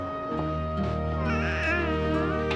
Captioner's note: cooing